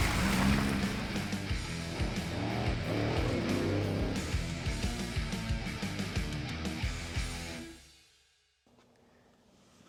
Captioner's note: truck engine sounds and music